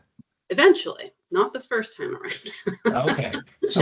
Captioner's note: chuckling